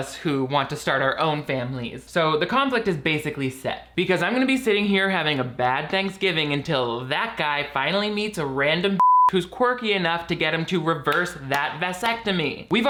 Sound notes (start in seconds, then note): 9.0 beeps